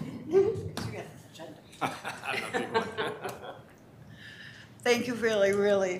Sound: both laughing

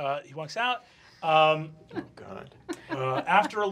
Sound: giggling

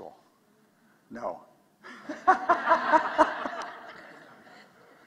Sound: laughter

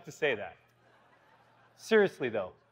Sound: laughter

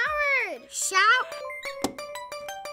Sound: game dings

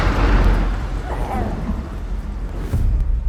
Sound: lightning cracks; creature cooing

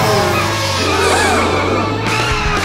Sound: gasps

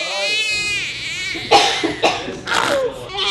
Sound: loud crying; coughing sounds; baby pooping sound

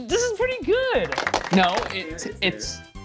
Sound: applause

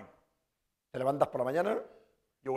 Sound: speaking spanish

